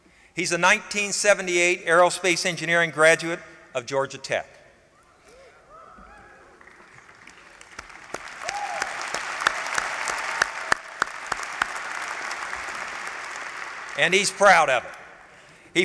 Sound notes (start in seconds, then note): 6.5 applause